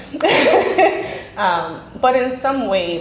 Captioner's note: laughing